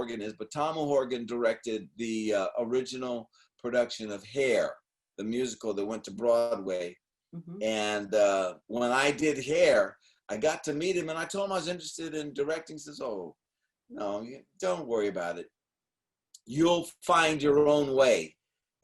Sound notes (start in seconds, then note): none